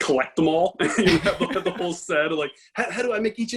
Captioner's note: laughs